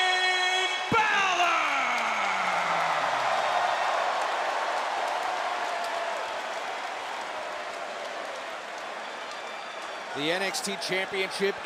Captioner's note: crowd cheering